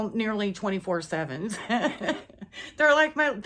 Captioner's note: laughs